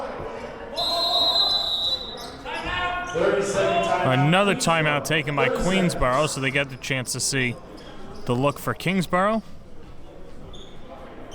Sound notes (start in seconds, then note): 0.7 whistle blows